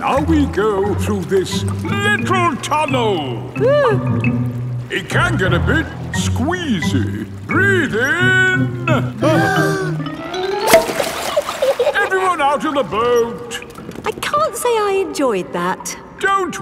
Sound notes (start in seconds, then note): 3.6 whimpers; 9.5 breathing in